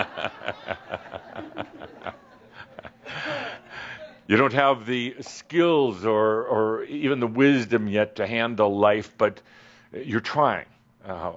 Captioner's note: laughter